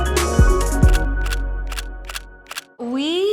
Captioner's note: camera clicks